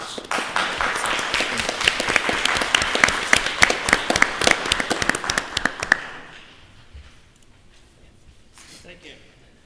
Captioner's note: applause